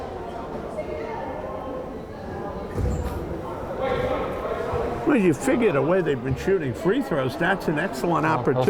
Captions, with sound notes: (crowd chattering) Well, you figure the way they've been shooting free throws, that's an excellent opportunity.